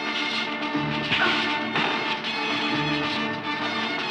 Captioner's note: punches thudding